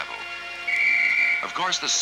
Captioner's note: whistle blowing